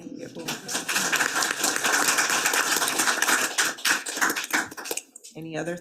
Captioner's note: attendees clapping